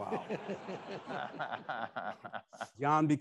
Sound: attendees laughing

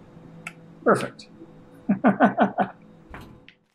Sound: chuckles

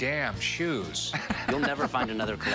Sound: laughs

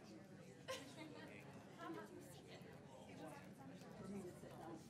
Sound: women laughing

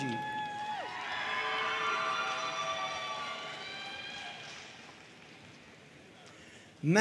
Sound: audience cheering and applauding

